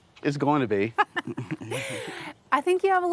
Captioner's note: host Laughing